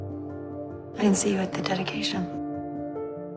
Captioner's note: voiceover